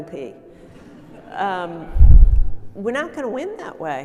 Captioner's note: audience laughing